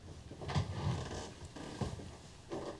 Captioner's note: creaking